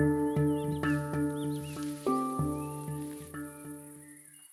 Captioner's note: rustling footsteps in the grass